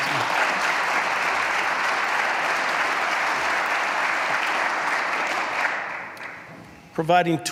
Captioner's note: applause